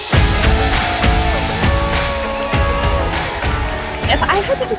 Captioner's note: spectators cheering